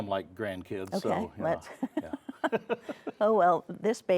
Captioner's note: laughs